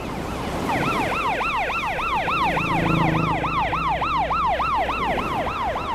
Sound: siren wailing

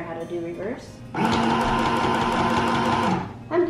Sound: machine whirring

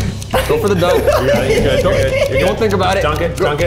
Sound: continues giggling

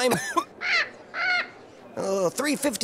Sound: bird squawking

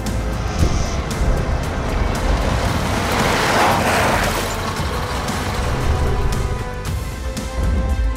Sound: car driving up sound

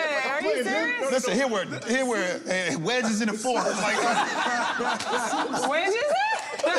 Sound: laughter

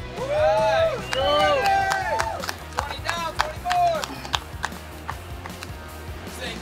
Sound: cheering & Clapping

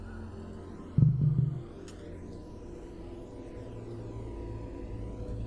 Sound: objects falling

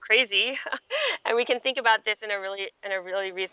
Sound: chuckles

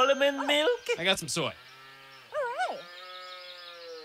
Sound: cow mooing

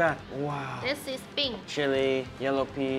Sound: speaking Mandarin

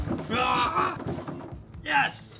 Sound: barbaric yelling

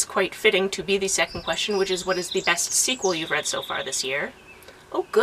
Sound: birds chirp

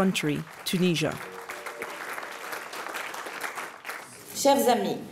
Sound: audience clapping; speaking a foreign language

